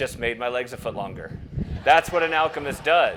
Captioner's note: crowd laughs